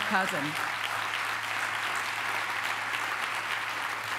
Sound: applause

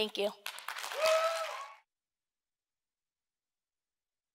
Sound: audience cheering

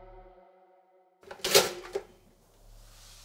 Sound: toaster clicks

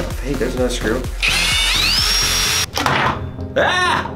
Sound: drilling

